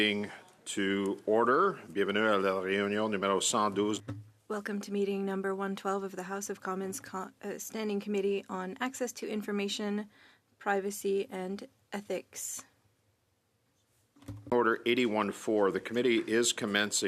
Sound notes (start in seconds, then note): 6.6 speaking French